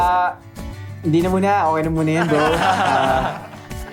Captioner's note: laughing